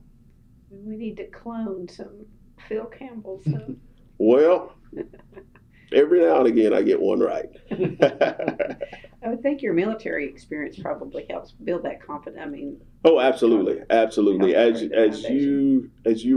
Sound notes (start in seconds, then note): 7.5 laughter